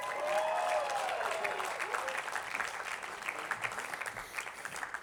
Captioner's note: attendees applauding